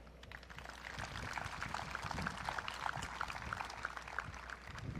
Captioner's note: audience clapping